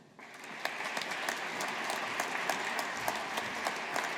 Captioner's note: audience applauding